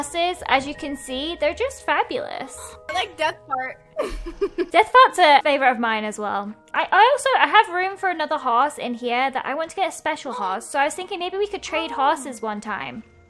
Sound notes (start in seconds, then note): 3.9 laughs